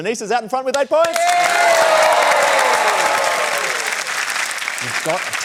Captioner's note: cheering, applause